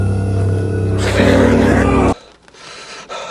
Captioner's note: more beastly roars followed up by Flynn's violent axe strike